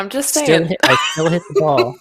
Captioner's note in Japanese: 笑い